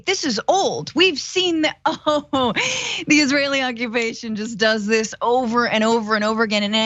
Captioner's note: laugh